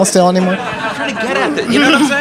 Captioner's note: audience laughing